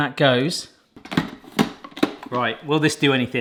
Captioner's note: blender clunking